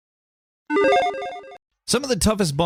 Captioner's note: video game beep